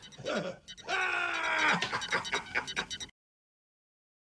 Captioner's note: laughter